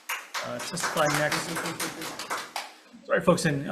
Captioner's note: croup applaud